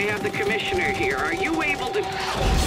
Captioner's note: crash